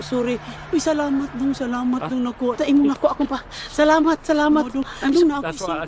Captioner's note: woman speaking in foreign language